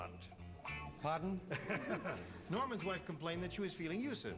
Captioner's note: laughter